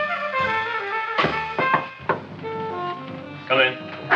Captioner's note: Frank knocks rhythmically